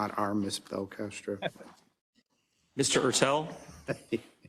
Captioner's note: laugh